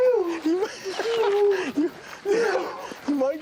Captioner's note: jeremy laughs